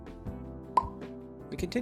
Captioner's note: pop